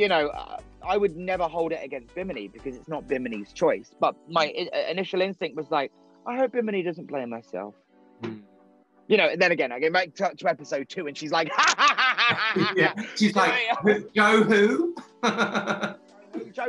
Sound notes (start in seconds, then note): 11.5 manically laughing; 14.2 laughing